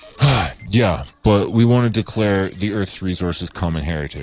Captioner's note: sigh